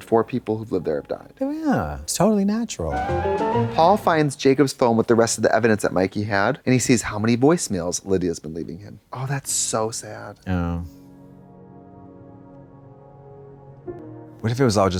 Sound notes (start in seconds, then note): 3.1 bright chime; 12.6 somber music